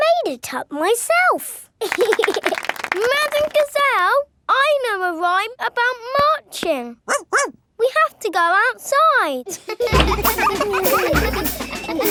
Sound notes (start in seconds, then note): 1.8 laughing and clapping; 7.0 barks; 9.4 children laughing